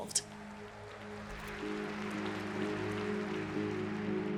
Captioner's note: applause